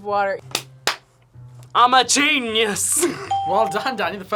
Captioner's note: bell rings